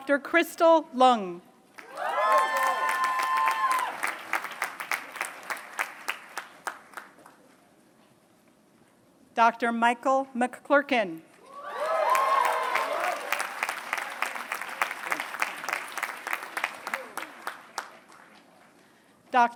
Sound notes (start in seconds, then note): 1.7 applause; 11.6 applause